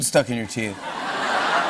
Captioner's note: laughter